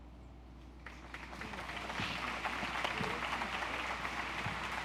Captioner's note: audience applauds